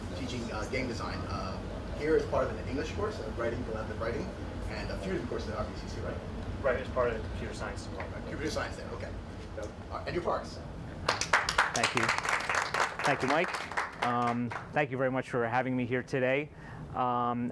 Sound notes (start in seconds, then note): 11.0 clapping